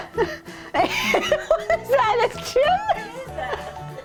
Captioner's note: laughing